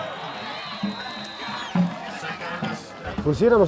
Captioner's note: crowd cheering